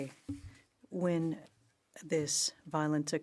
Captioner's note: speaking French